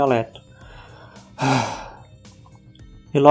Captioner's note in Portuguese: suspiro